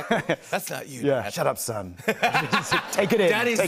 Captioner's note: laughter